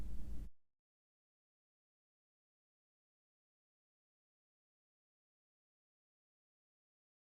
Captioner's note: silence